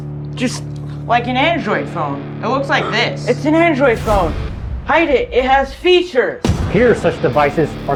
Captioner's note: gasp